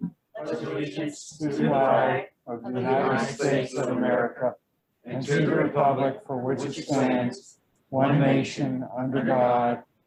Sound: Pledge of Allegiance recited in unison

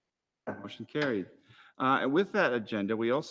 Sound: gavel raps

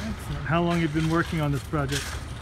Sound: voiceover

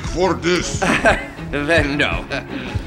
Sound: German laugh

